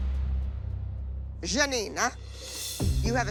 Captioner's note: Italian accent; normal voice